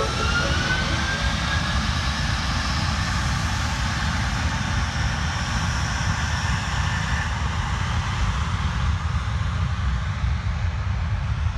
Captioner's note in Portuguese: som dos motores do avião